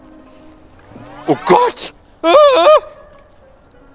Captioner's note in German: schreit